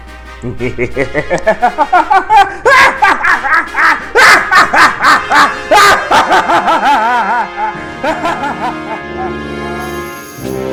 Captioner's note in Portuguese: Risada malígna